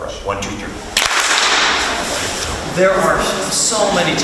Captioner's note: group claps